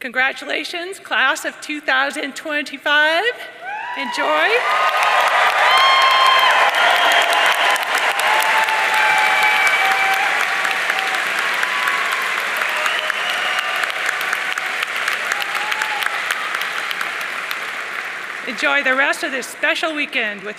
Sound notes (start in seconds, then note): 5.0 audience cheering and applauding